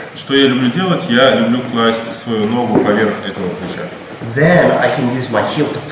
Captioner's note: speaking in a foreign language